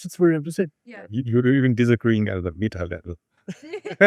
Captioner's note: laughs